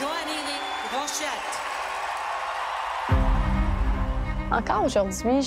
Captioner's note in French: acclamations